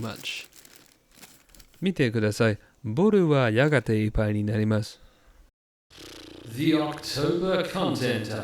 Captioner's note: deflatedly* pwwwww